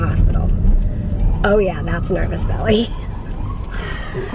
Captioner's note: laughs